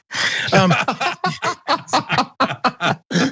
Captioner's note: laugh